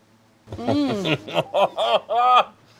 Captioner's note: laughs